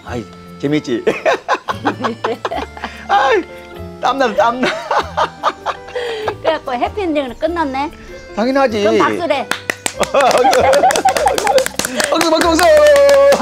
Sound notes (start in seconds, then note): 1.0 both laughing; 9.1 happily clapping